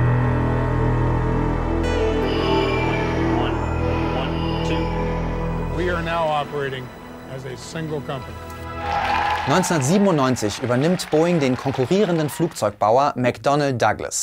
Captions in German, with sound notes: "One. One, two." "We are now operating as a single company." (Jubel) 1997 übernimmt Boeing den konkurrierenden Flugzeugbauer McDonnell Douglas.